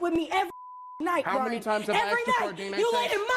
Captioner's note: beep